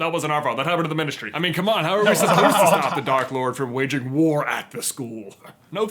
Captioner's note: current laughter